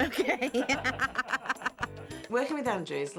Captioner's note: laughing